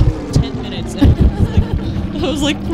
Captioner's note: laughter